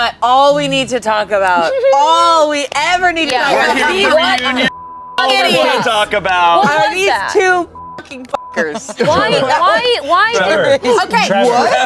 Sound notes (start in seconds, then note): 3.6 beep; 7.6 beep